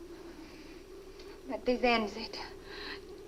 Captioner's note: Ann speaks Swedish